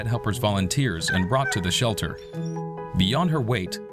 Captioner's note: dog yelps